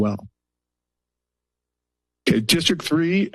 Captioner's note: pause